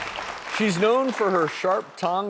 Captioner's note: applause